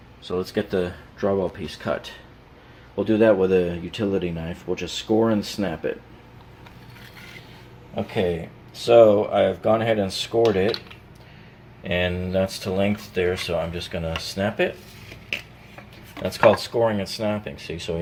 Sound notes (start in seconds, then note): 6.6 utility knife scraping